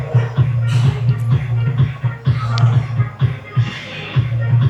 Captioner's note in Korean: 콧방귀